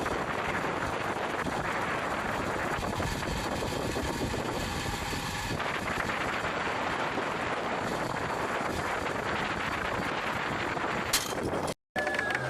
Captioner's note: applause